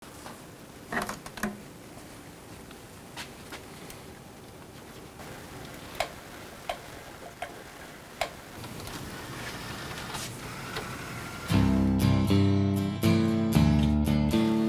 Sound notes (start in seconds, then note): 9.6 CD player whirring; 11.9 upbeat music